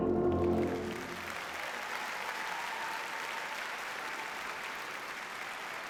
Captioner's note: audience cheers and applauds